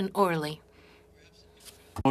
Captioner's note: speaking French